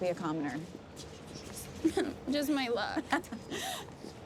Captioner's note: whimpers